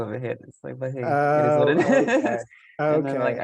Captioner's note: laughing and voice muffling